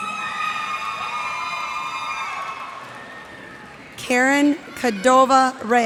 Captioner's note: cheers and applause